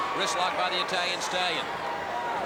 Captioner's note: crowd cheering